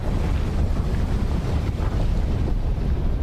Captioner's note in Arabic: صوت انفجار